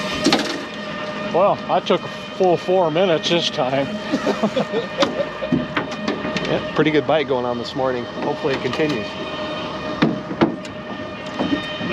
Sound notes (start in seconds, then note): 0.0 horn blaring; 6.6 laughing